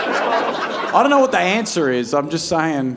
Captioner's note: audience laughing